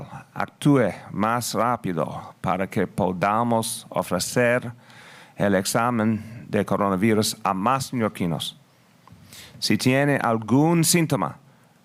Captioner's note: spanish